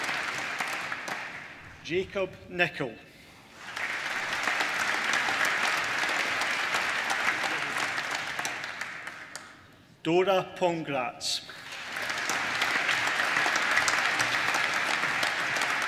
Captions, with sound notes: Jacob Nicol (APPLAUSE) Dóra Pongrácz (APPLAUSE)